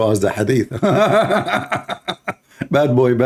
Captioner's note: Ketawa